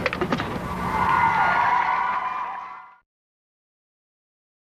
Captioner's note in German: Publikum klatscht und jubelt